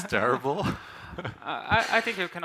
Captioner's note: laughs